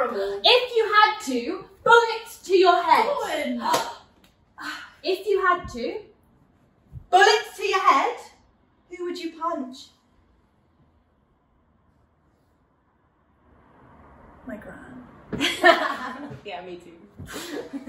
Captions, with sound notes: If you had to, bullet to your head! Don't! If you had to... bullet to your head... who would you punch? My gran... (laughter) Yeah me too.